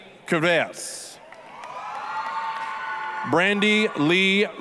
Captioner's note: applause, cheering